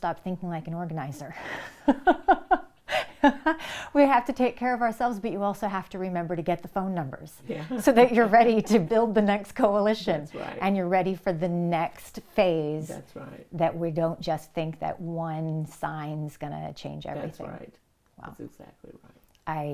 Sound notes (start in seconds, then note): 1.4 both laughing; 7.5 laughing